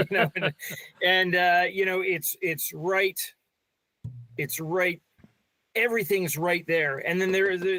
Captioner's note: laughing